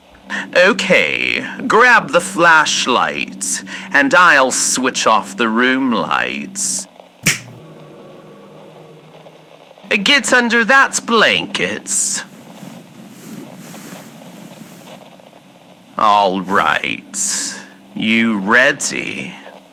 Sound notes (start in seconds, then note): 7.2 snap fx